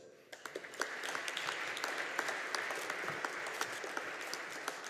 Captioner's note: audience applauding